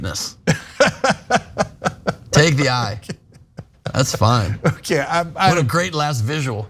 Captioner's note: laugh